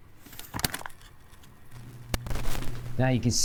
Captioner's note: stones clattering